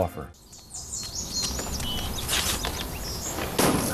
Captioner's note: birds chirping; loud thud and car alarm goes off